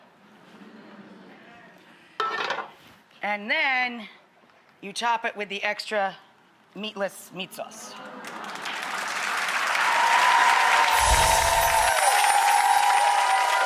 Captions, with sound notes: and then you top it with the extra meatless meat sauce. (audience applauds)